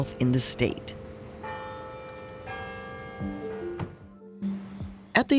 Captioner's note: bell continues